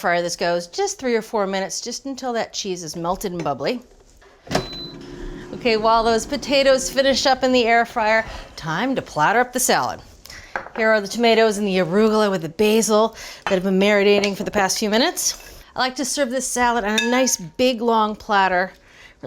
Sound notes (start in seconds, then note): 4.5 air fryer heating